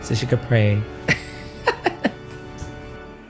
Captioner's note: laughing